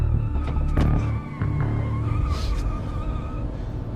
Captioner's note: tires screeching